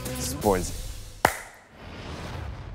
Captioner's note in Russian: хлопок